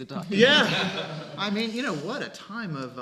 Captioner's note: laughing